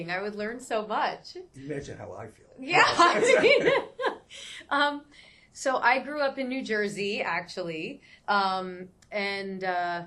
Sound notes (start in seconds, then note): 2.8 laughs